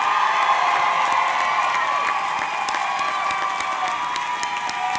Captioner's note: audience cheering; audience clapping